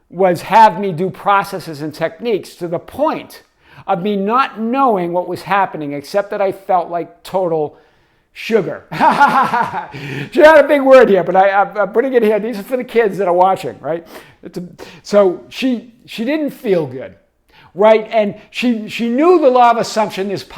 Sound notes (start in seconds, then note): 8.9 laughing